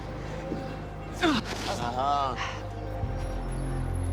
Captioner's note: grunts